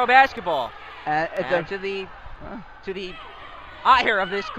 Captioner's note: crowd yelling